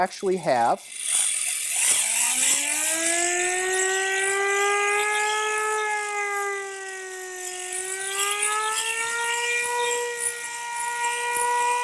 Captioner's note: cranks air raid siren